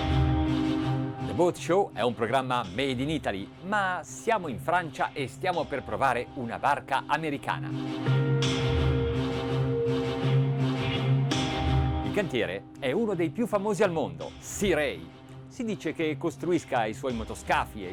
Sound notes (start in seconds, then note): 8.7 intense music; 12.5 man speaks in foreign language